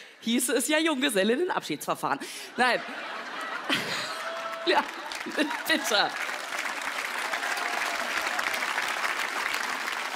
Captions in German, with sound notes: hieße es ja "Junggesellinnen- Abschieds-Verfahren". Nein. (Lachen) Ja. (Applaus, Jubel)